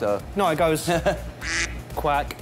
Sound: quacking sound effect

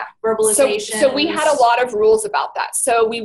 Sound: voiceover

